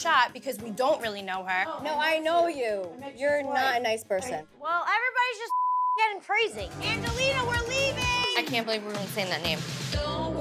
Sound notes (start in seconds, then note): 5.5 beep